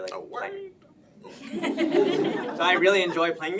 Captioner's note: laughing